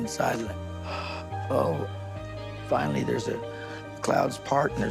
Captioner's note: gasps